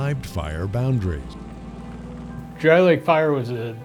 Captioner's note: sound of vehicle